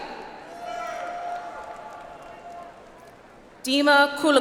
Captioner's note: audience applauds